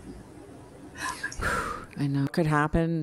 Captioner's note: exhales sharply